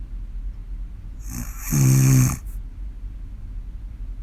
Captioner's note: snoring